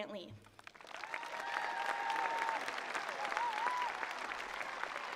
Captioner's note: attendees applauding